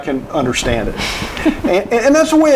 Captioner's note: chuckling